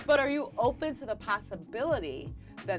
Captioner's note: laughing